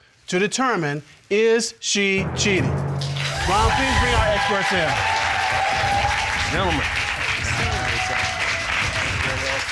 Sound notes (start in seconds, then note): 5.1 audience cheering and applauding; 7.0 cheering continues